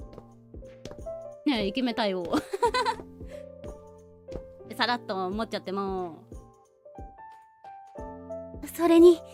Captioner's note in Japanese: 笑い